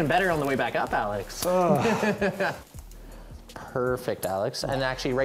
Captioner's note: laughs